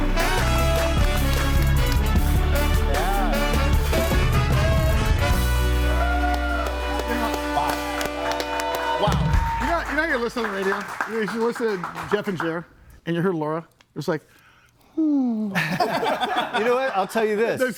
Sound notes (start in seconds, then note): 5.6 audience cheers and applauds; 14.8 sighs; 15.5 group laughs